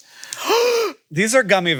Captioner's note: gasps